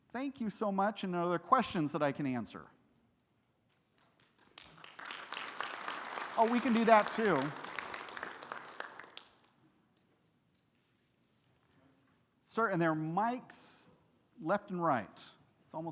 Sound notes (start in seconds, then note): 4.0 audience clapping